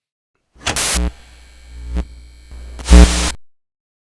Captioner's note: electric buzzing